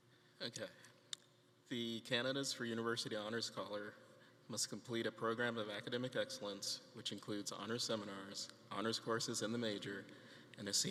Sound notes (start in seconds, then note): none